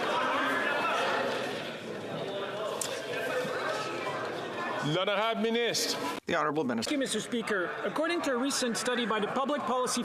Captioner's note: chatter